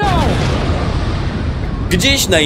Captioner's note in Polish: boom!